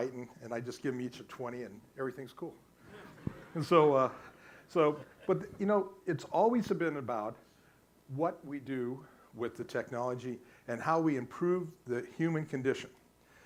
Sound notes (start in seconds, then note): 2.8 audience laughs